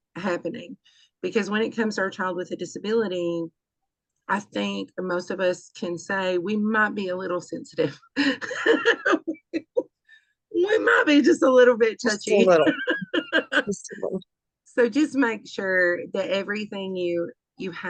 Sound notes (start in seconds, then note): 8.4 laughs; 12.4 laughter